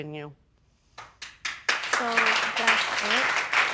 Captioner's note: audience clapping